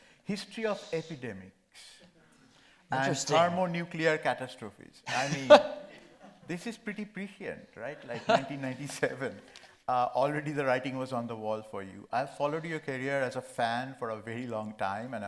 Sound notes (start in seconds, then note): 5.1 Gregg laughing